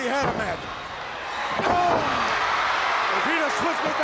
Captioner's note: crowd cheering